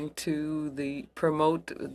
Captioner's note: speaking French